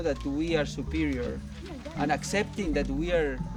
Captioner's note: digging